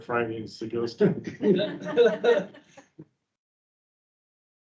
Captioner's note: members laughing